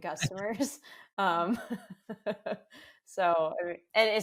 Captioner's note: both laugh